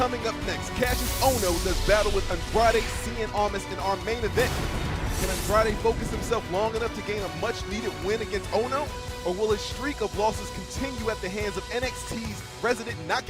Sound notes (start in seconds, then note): none